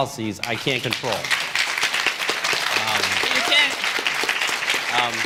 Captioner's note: applause